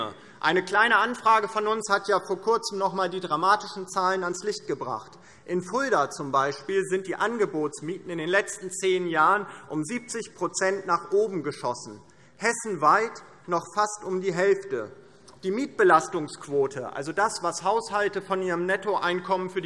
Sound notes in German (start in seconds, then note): none